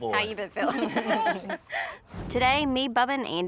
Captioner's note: everybody laughs